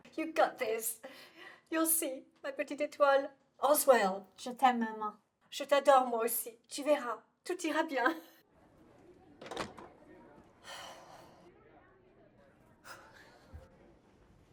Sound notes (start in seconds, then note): 10.6 sighs; 12.8 exhales sharply